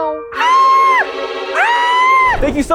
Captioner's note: shouts